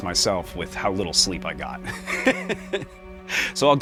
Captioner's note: laughs